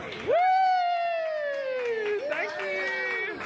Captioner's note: crowd cheers and applauds